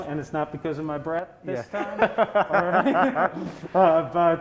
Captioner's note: laughing